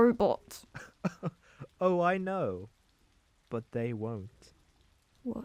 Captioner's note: chuckles